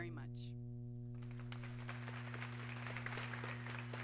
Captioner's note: applause